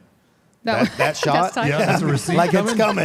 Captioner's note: laughs